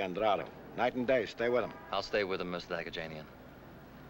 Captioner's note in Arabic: يتمتم